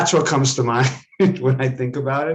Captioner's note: laughs